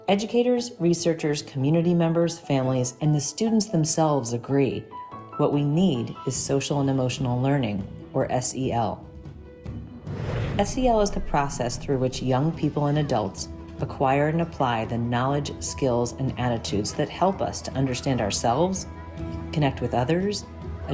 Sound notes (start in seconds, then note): 9.1 gentle upbeat music; 10.0 graphic whooshes